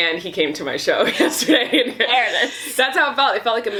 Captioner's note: laughs